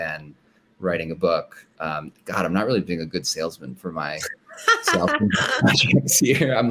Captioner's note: laughter